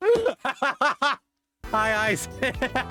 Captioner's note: completely gone laughing and hitting desk; bursts laughing